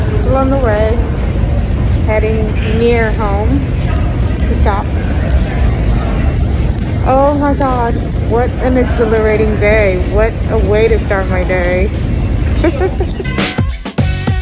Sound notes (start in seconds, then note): 12.4 laughs